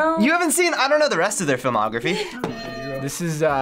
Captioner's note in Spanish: suena la campana